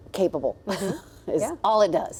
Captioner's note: laughs